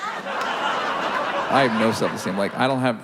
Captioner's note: audience laughs